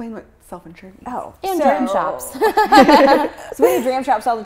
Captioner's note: laughing